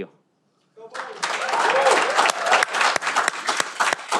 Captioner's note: cheering